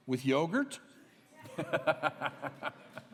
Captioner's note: laughs